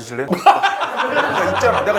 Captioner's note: bwahahaha